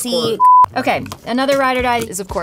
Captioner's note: beep